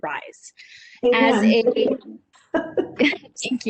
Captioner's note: laugh